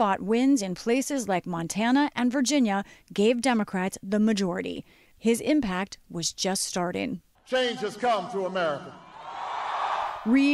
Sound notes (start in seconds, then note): 9.0 cheering and applause